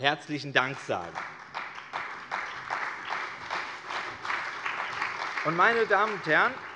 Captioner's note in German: Beifall bei der CDU, der SPD und dem BÜNDNIS 90/DIE GRÜNEN